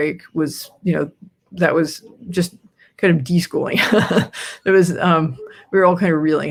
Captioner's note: laughs